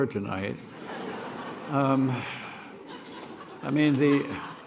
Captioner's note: laughter